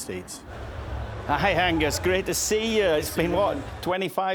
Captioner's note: with Scottish accent